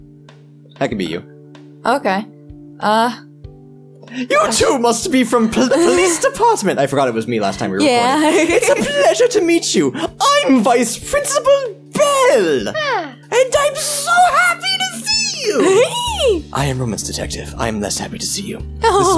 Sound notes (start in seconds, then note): 4.4 high voice; 8.0 laughs; 12.0 happy noise; 15.4 laughs